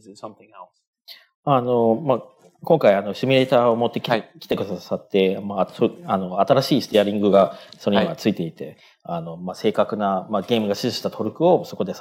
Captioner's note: speaking japanese